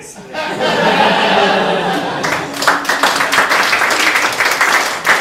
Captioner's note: audience laughs, applauds